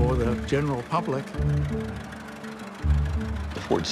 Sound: engine chugging

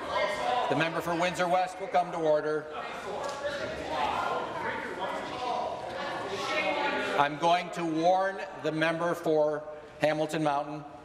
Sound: yelling off mic

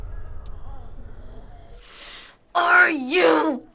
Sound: runners moan; sucks air through teeth; grumbling

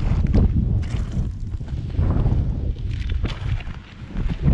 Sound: wind whooshing

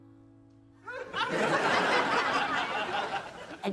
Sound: crowd laughing

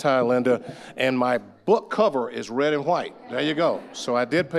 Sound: audience laughing

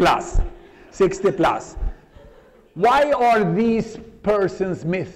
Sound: laughter

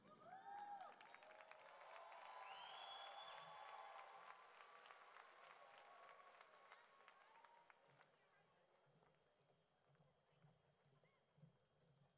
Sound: cheering and Applause

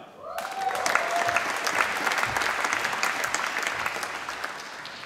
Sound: applause

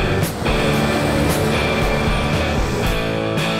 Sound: truck sound

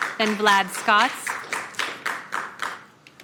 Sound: applause

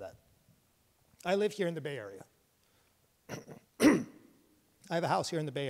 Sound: clears throat

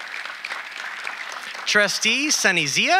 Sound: audience applauding

